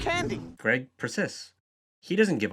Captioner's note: voiceover